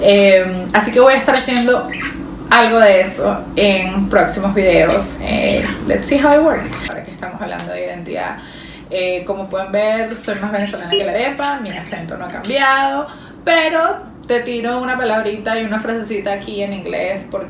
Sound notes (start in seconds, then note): 4.9 Spanish